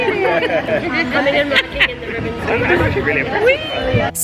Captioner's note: laughs